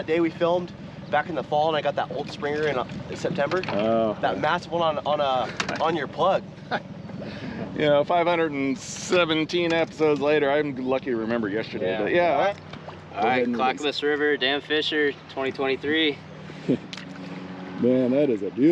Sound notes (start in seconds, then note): 6.5 chuckling; 16.5 chuckling